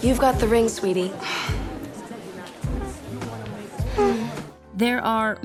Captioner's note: sighing noise